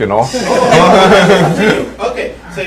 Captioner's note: laughter